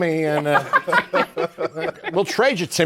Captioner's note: laughter